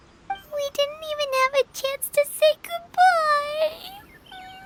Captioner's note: sobs